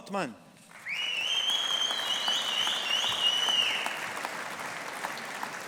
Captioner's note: audience applauding